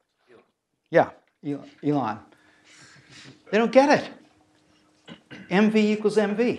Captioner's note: laugh